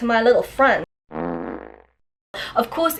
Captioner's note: fart noise